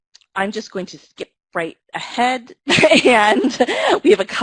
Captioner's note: laughs